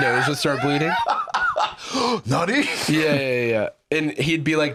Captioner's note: laughs